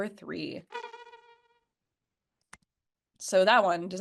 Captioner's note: high-pitched humming